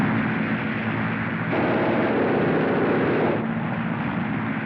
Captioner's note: machine Gun Fire